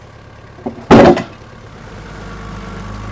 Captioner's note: wood thuds; engine revving